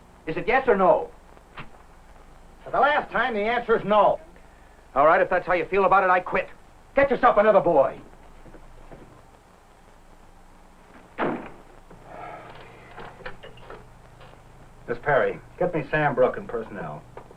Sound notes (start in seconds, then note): 11.1 slam!